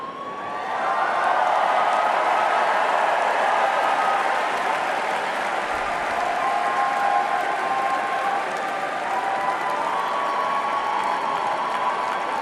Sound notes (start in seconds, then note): 0.7 cheering and applause